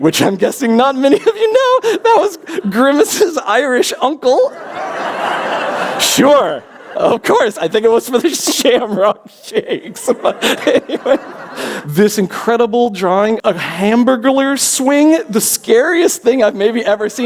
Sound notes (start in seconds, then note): 4.4 laughter; 11.3 laughs